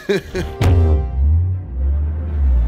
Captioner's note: bounce